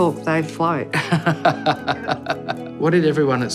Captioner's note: laughing